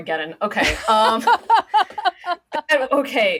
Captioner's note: laughing